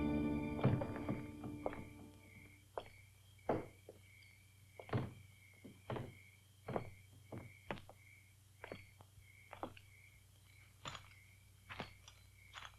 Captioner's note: Cass's slow footsteps